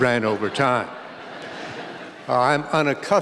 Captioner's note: laughter